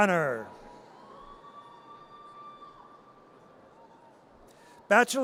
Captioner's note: audience cheers